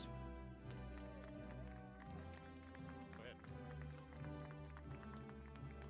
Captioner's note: applause